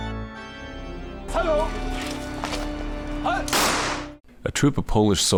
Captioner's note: men speaking in Polish